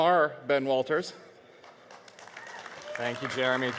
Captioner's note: audience cheering